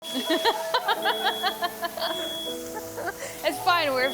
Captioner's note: laughing